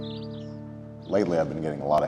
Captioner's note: birds chirping